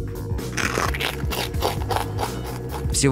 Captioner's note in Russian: хрустит шумно